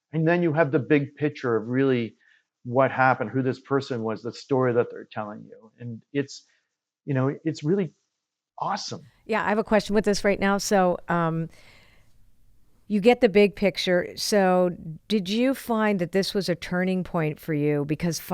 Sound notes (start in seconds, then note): none